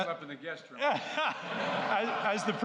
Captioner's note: laughter